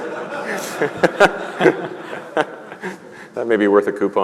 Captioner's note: laughter